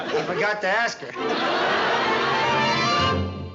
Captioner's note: laughter